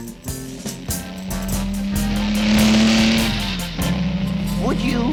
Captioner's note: engine revving